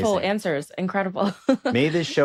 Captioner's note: laughs